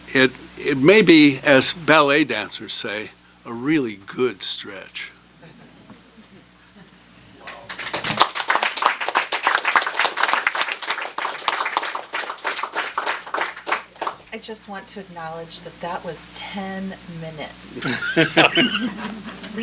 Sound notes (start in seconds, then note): 7.4 applause